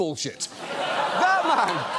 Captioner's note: studio audience laughs